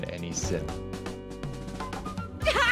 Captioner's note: sobbing